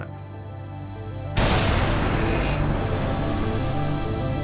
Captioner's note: explosion roaring